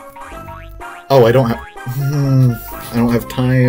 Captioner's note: frustrated noises